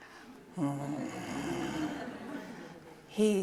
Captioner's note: audience laughing; growling